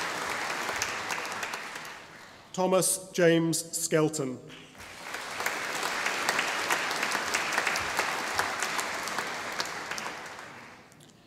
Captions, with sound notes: Thomas James Skelton (audience applauding)